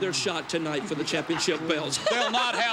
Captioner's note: Hart Foundation laughs